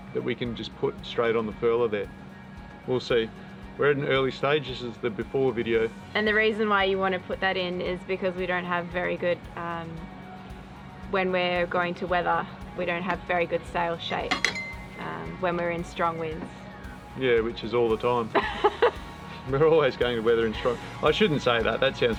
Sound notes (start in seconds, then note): 18.3 laughs